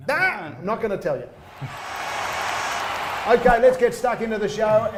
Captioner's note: fans cheering